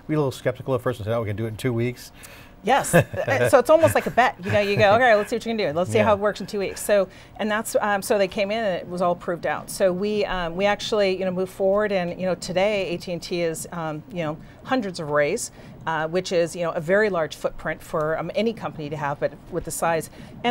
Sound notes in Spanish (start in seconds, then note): 2.8 se ríe